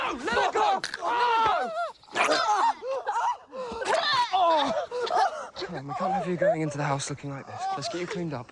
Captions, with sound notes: - No! No, let her go! (yelling) (puking) Come on. We can't have you going into the house,